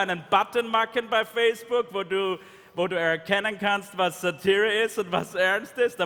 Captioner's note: speaking in German